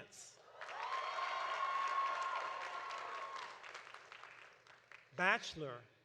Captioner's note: audience applauding; audience cheering